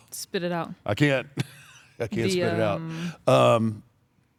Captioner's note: laugh